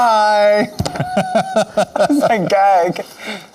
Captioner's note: laughing